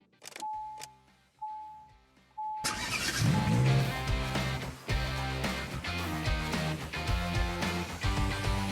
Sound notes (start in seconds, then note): 0.4 car alarm ringing; 2.6 car engine roaring; 3.0 upbeat music